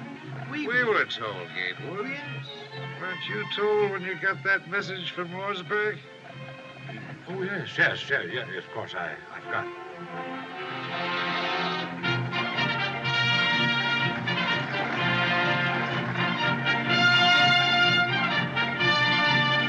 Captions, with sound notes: - We - - We were told, Gatewood. Yes. Weren't you told when you got that message from Lordsburg? [ Clears Throat ] Oh, yes, yes. Y-Yes, of course. I - I forgot.